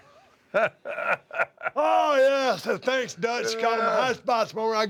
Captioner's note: laugh